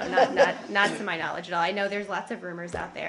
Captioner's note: laughter